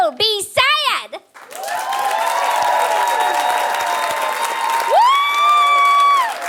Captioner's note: audience applauding